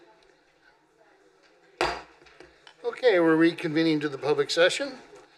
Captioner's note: gavel